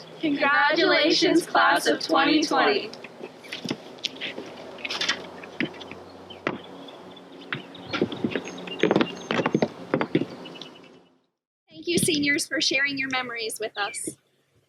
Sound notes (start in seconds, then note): 6.9 poles clatter; 7.4 shoes tap